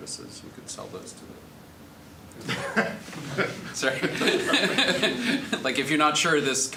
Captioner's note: all laughing